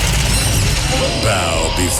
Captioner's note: screaming